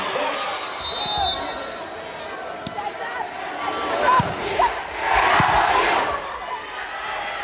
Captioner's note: whistle blows; players yelling; crowd chanting